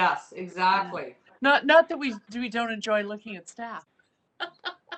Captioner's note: chuckles